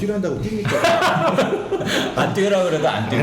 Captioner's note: laughing